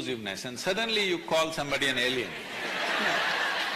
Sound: laughter

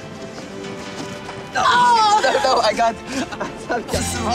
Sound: both struggling and shouting

